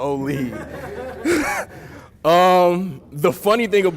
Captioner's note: laughter